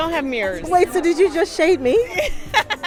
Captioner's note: laughter